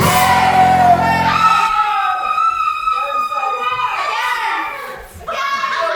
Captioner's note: augustine screams in terror